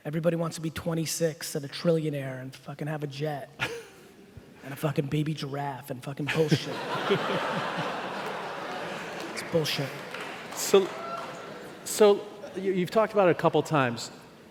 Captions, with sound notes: Everybody want's to be 26 and a trillionaire and fucking have a jet. And a fucking baby giraffe and fucking bullshit. (laughing) It's bullshit. - So, you've talked about it couple times.